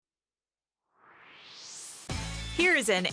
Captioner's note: swoosh